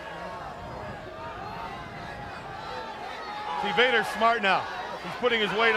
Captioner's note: crowd chatter